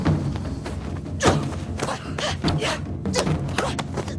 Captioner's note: grunting; thumping